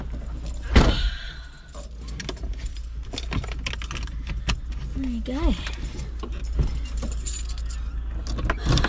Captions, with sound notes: [door slams shut, seat belt clicks into place] There you go.